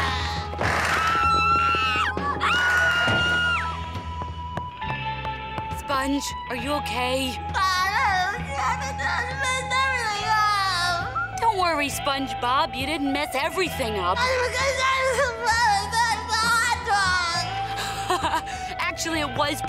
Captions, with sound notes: [screaming] Sponge, are you okay? [crying, mumbling] -messed everything up. Don't worry, SpongeBob. You didn't mess everything up. [crying, mumbling] -hotdog. [chuckles] Actually, it was pretty funny